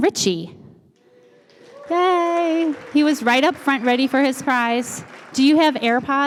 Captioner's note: applause